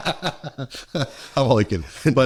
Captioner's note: laughing